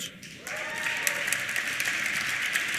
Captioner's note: applause